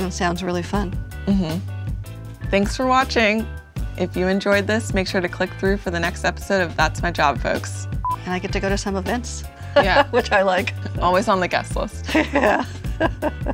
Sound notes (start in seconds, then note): 9.7 laughs; 12.0 both laughing